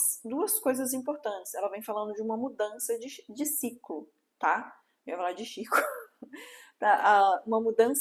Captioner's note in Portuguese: risadas